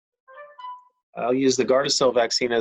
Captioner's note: cellphone chimes